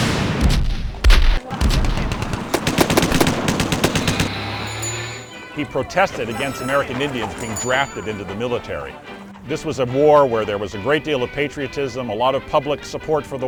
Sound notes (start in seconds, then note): 0.0 gunfire